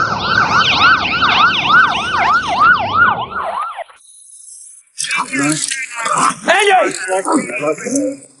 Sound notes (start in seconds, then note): 4.9 police radio chattering